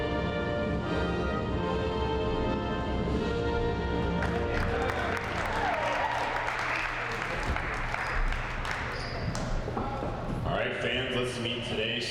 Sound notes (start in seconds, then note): 4.1 audience clapping